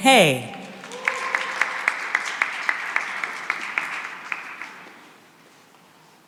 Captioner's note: cheering and applause